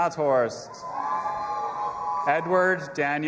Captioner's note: audience applauding and cheering